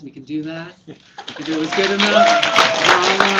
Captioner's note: applause